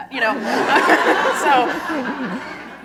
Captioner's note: laughter